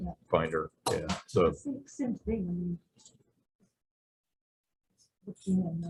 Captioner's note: indistinct conversation